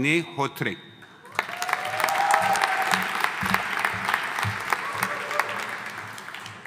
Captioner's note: audience applauding; audience cheering